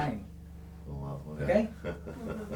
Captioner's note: laughs